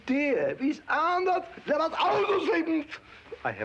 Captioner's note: speaks foreign language